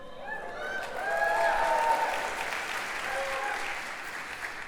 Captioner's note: applause